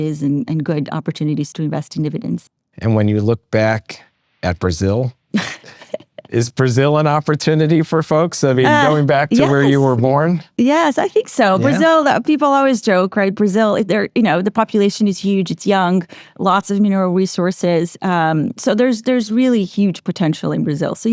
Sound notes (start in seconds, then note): 5.4 laughs